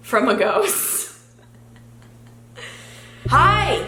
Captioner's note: giggles